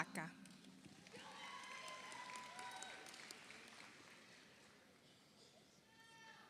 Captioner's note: audience applauds; audience cheers